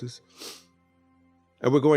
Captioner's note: sniffs